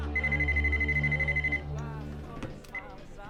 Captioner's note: phone rings